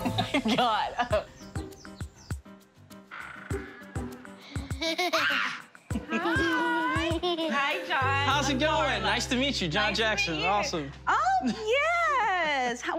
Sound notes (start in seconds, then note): 3.6 door creaks open; 4.6 children laughing